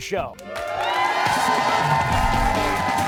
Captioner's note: cheers and applause